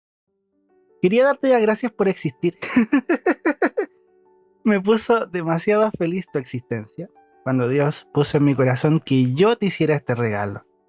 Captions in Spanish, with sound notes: quería darte las gracias por existir (risas) me puso demasiado feliz tu existencia cuando Dios puso en mi corazón que yo te hiciera este regalo